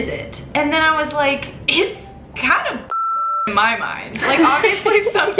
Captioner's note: beep